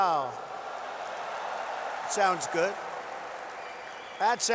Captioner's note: applause